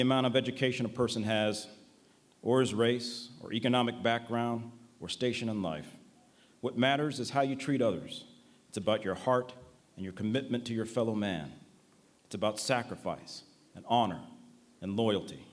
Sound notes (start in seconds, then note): none